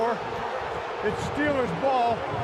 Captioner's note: booing